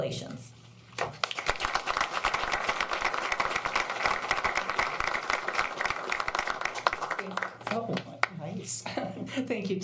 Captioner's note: applause